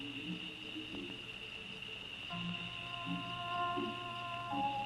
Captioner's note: insects chirping